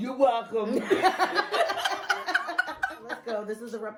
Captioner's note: laughter